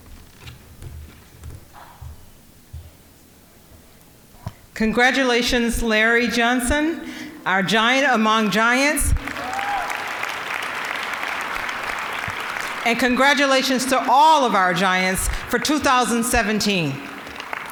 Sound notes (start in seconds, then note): 9.1 cheering, applause